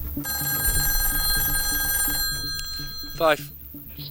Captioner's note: phone ringing